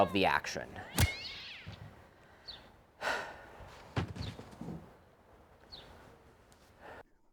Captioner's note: baseball bat thwacks; cat growls